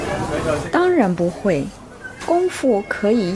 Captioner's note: speaking mandarin